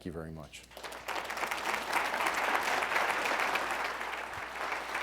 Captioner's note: audience applauding